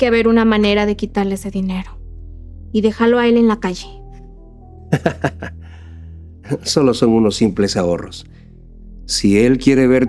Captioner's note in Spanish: risas